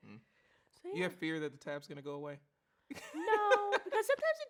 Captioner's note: laughs